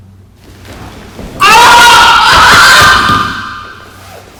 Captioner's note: screaming in distress